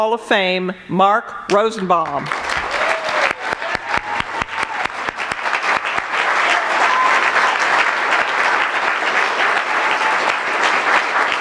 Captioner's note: applause